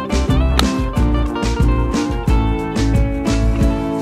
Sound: none

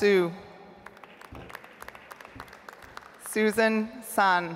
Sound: audience applauds

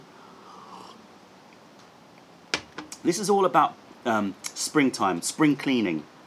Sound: sips tea

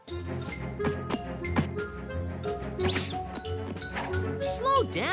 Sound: balls thudding

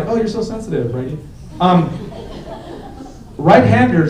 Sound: laughter

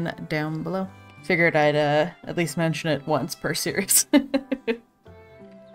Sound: laughs

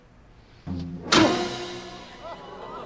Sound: punching

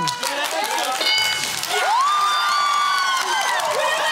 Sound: applause; cheering and applause

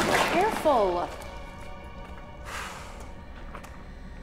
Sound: sighs

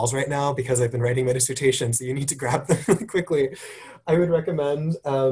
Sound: laugh

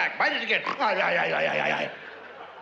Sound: imitates again

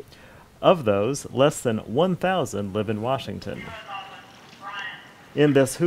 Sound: prison radio call

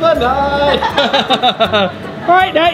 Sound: laughs

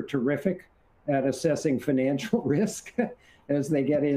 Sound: chuckles

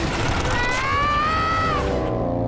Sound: screaming

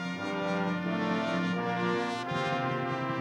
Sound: none

